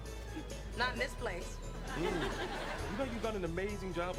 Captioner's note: laugh Track